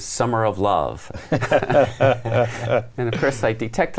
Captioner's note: everyone laughs